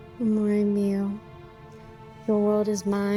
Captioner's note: Taffy speaking in Italian